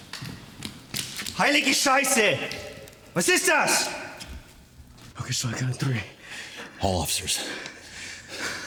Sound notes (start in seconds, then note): 1.3 officer speaking German